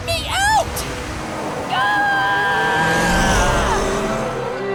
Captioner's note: screaming